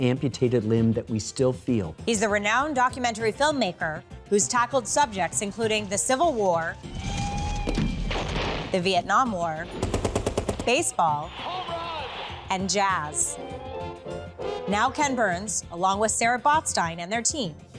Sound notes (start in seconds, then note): 6.9 explosions; 9.6 rapid gunfire; 12.4 jazz music playing